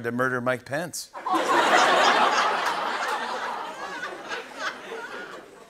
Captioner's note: laughter